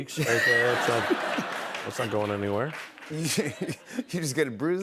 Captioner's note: laughter; laughing